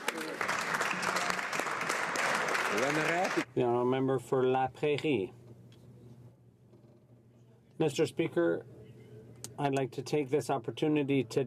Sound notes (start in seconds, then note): 3.4 some Applause